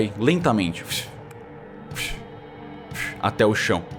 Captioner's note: whoosh, whoosh, whoosh